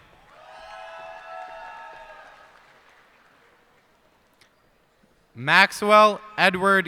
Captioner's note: cheers and applause